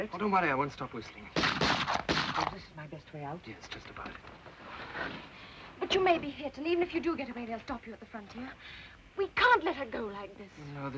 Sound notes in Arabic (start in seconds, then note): 1.4 طلقات نارية